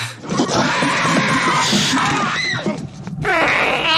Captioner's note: squealing; shouting